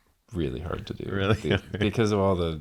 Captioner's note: laughing